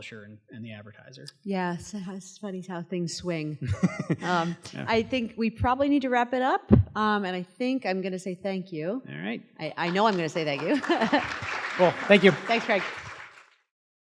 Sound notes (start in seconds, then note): 3.6 laugh; 10.5 laugh